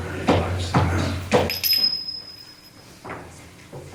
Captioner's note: bells tinkling